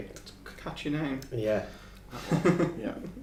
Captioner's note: laughing